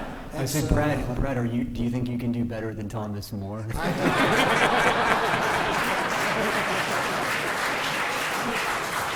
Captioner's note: laughter; applause